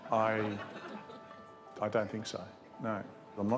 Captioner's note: laughter